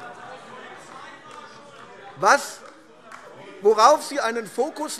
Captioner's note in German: Beifall AfD - Anhaltender lebhafter Widerspruch